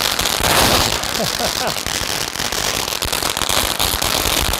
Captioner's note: laughing